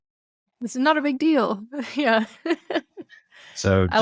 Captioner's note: laughs